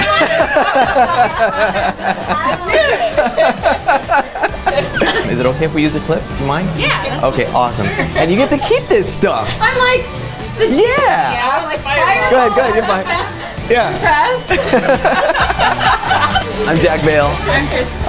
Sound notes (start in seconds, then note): 0.0 laughter; 14.3 laughter